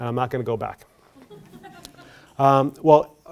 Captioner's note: laughter